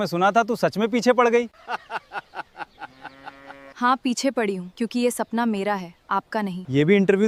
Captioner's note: laughter